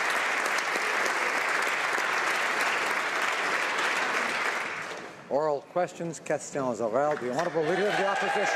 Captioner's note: applause